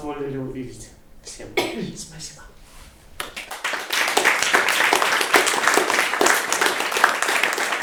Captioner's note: applause